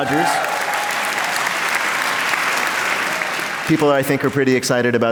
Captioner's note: applause